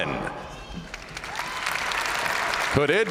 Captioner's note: audience cheering